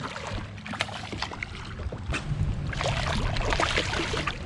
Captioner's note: fish splashing